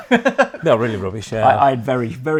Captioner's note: laughs